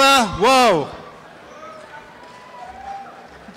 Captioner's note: applause and cheering